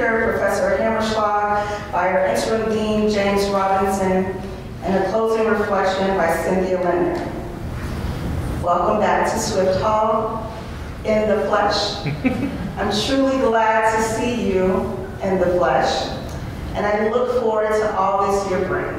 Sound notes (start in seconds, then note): 12.0 laughter